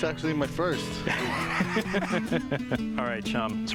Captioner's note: laughter